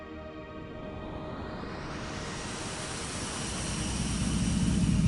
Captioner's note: ship engine humming